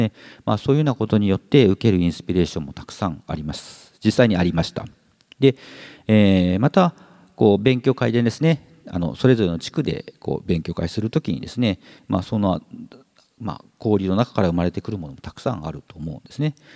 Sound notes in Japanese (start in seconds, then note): none